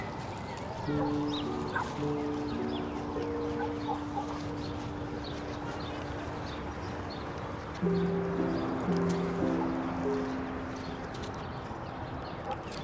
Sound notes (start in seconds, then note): 0.1 soft dramatic music; 3.3 birds chirping